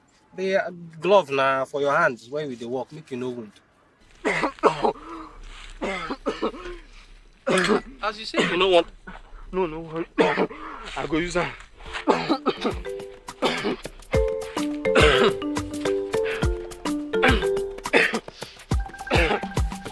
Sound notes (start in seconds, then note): 3.6 coughing; 12.1 chill Afrobeat music